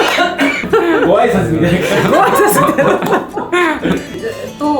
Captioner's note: laughs